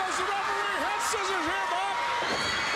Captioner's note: crowd cheering